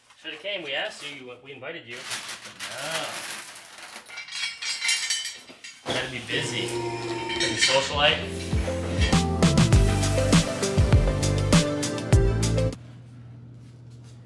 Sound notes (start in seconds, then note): 2.0 chains clanging